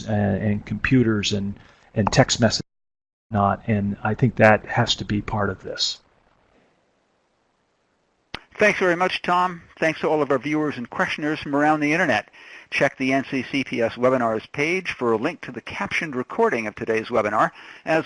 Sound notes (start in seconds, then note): 2.0 computer pop interrupts speaker